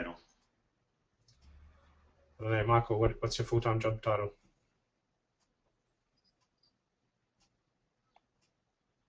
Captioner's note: long pause